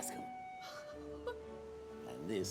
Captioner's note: Ruth laughs